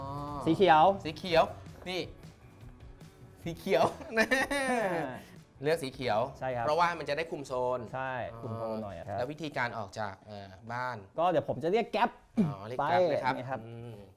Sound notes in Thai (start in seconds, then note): 3.8 เสียงหัวเราะ